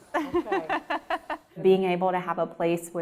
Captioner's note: laughs